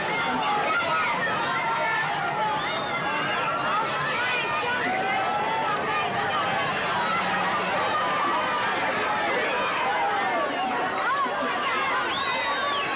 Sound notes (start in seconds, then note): 0.6 cheers